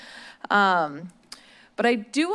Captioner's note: smacks lips